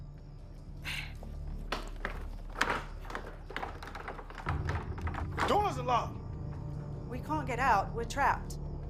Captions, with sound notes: (door handle rattles) - Doors are locked. - We can't get out. We're trapped.